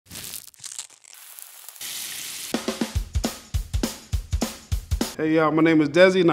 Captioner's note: oil frying; upbeat music